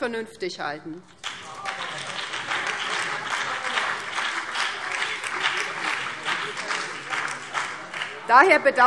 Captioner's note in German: Beifall BÜNDNIS 90/DIE GRÜNEN und DIE LINKE